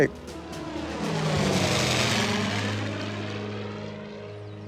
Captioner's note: jet engine roaring